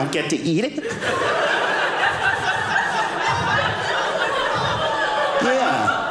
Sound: audience laughing

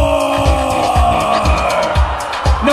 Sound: audience roars

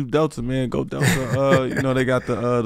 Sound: Metta laughs

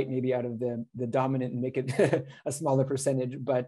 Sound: laughter

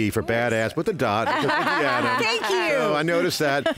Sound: laughter

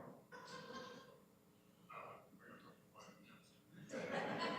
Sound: laughter

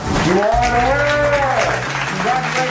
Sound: applause

